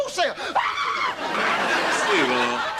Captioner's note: screams; audience laughter